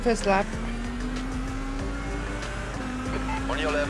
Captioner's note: engine revving